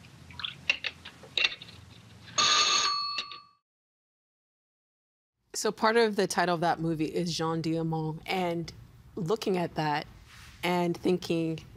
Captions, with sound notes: (Phone ringing) So, part of the title of that movie is Jeanne Dielman, and looking at that and thinking